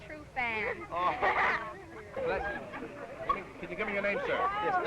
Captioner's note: laughing